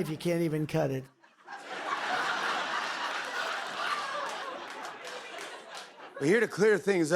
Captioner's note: laughter